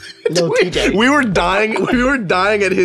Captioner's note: laughing; laughs